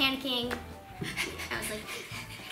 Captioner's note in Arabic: يلهث